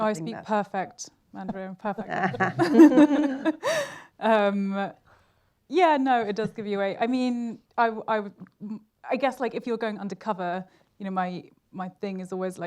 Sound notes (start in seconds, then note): 2.0 laughter